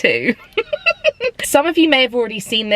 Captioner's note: giggling